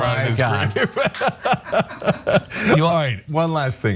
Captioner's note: laugh